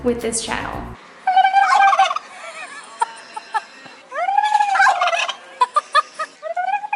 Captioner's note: turkeys cluck; clucks